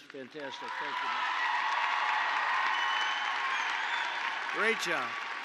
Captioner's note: applause